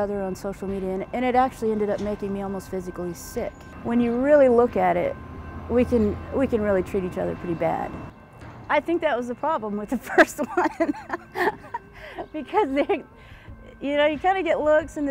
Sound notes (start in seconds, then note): 10.4 laughs